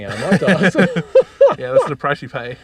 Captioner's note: laughing